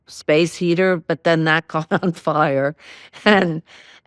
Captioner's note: laughing